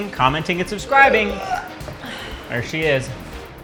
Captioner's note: burp